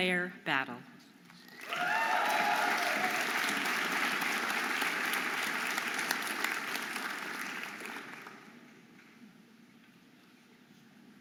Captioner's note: audience applauding and cheering